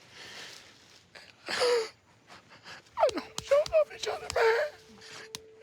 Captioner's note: crying